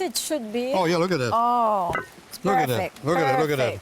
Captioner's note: platter clanks